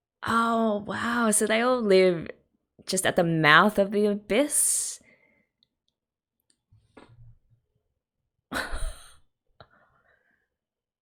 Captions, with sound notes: Oh wow! So they all live just at the mouth of the Abyss? [stunned laugh]